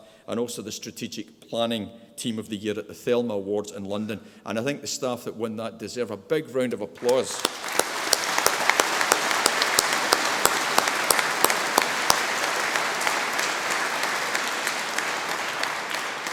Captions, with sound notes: and also the Strategic Planning Team of the Year at the Thelma Awards in London. And I think the staff that won that deserve a big round of applause. (audience applauding)